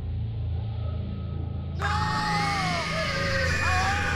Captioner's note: screaming